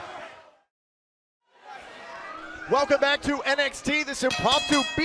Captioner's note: crowd chatter